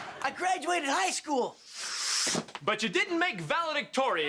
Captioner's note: whooshes